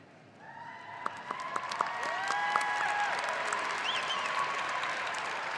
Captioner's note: audience applauding